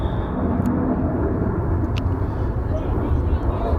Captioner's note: whistle